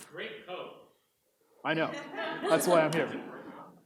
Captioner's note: audience laughs